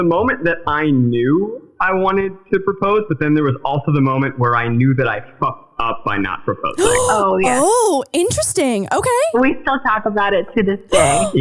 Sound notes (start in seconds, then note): 6.8 gasping